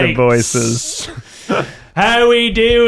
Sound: laughing

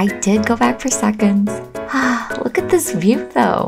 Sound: sighs in foodie joy

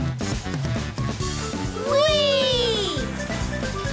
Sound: cheering

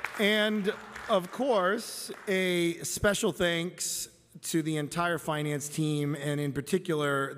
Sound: applause

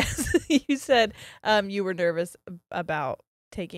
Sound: laughs

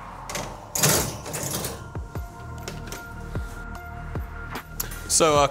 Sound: pan clinking

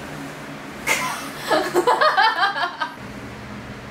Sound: laughs

